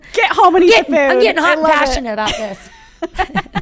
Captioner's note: laughing